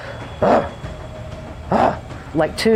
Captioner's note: animal sounds